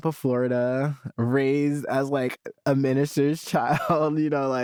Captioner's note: chuckles